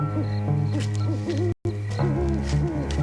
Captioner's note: owl hooting